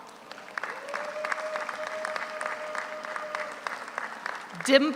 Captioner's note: audience applauds; audience cheers